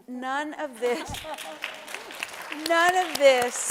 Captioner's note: applause